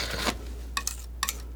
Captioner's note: scratching